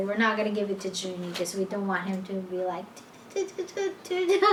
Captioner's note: vocalizes